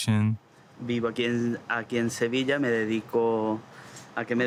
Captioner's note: speaking Spanish